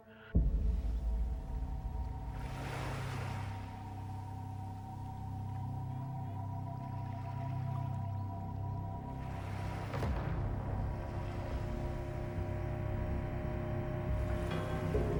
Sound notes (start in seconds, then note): 0.3 eerie electronic music; 0.3 water sloshing; 2.6 waves lapping